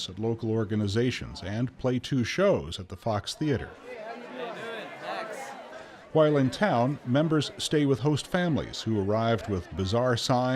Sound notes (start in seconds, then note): 3.9 crowd chatter